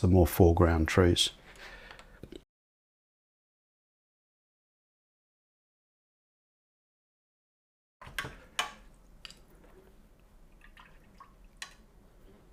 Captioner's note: silence